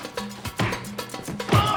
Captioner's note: grunting